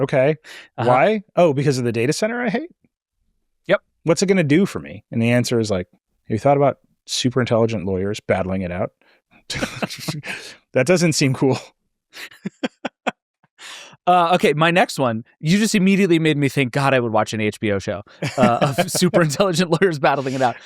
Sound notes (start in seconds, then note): 0.0 laughs; 12.1 laughs